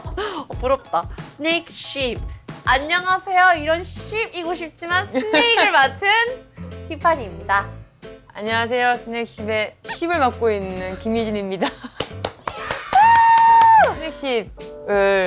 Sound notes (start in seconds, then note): 11.9 applause